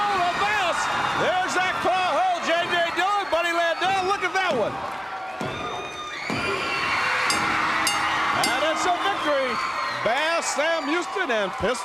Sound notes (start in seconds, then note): 6.2 crowd cheering; 7.2 bell ringing